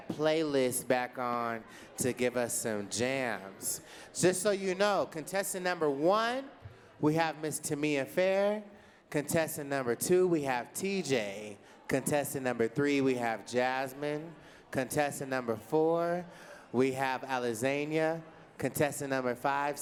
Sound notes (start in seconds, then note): none